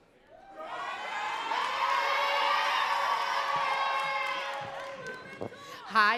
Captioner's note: crowd cheering and clapping